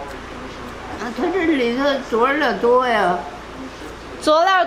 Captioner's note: speaking Chinese; grandma speaking Chinese; speaking Chinese